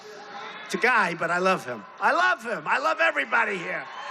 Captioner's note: crowd shouting